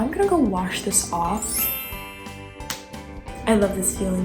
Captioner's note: magical chime